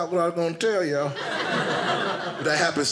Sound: audience laughing

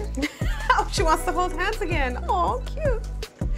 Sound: laughing

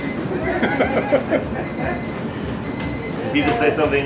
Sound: laughing

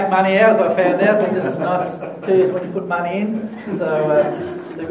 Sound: laughter

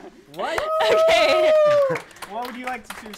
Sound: applause

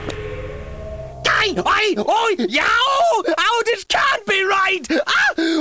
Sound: panicked yelping

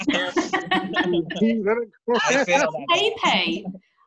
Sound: laughter

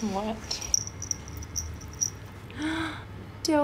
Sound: bells

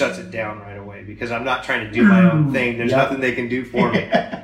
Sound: powering down sound effect

